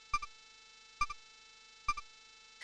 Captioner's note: silence